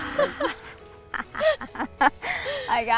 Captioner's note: giggles